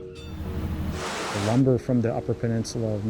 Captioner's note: bell tolling; boat engine waves crashing